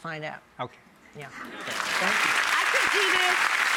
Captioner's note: audience applauding